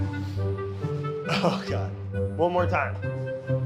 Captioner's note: classical music playing; chuckles